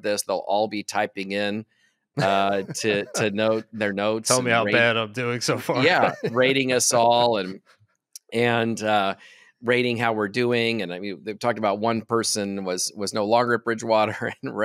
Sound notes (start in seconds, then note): 5.4 chuckles